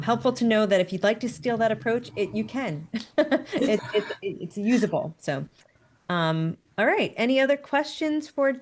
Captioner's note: laughs